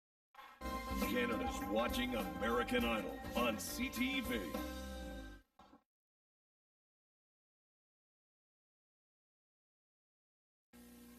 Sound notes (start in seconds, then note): 6.7 silence